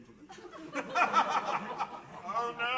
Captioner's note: laughter